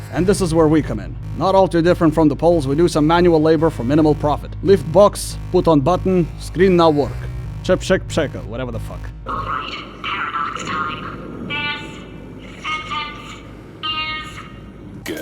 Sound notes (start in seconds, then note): 7.1 attempt at speaking polish